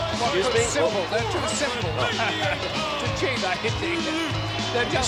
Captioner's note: laugh